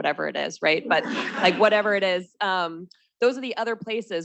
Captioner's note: students laughing